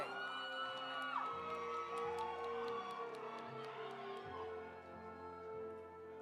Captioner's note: audience cheering; audience applauding